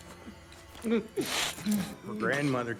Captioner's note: Lance whimpering